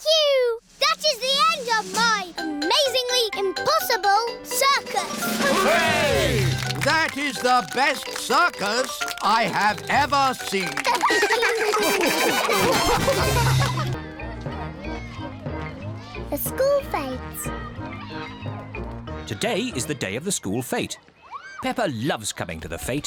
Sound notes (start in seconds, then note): 10.6 all laugh; 13.9 children exclaiming playfully